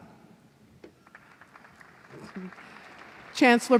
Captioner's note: applause